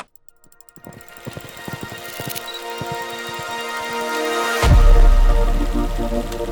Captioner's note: film reel clicks; dramatic electronic music; film reel rattles